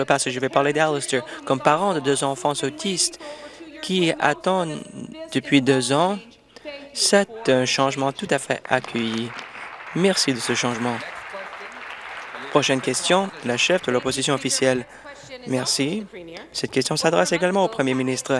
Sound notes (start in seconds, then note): 12.8 applause